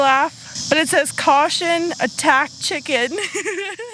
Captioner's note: laughs